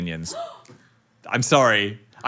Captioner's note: crew member gasps